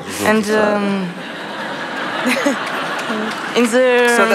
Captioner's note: laughter